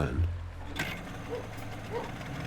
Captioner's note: metal creaking; dog barking